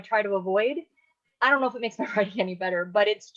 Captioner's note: laughing